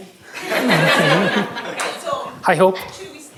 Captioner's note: laughter